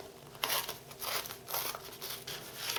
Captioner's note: tearing sounds